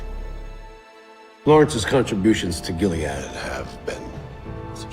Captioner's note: voiceover